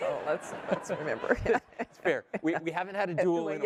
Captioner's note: laugh